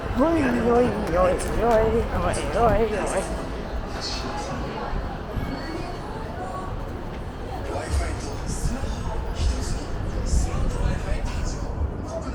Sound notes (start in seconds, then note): 7.5 More Osaka noises